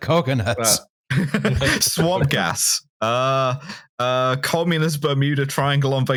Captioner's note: laughs